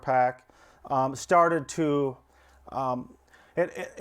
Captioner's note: stammers